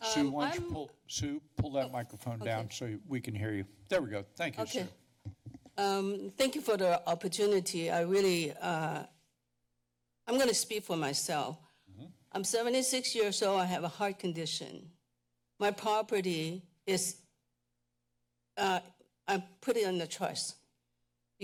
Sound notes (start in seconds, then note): 14.8 pause